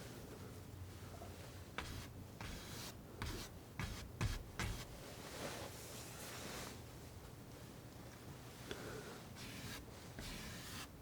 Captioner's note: scratching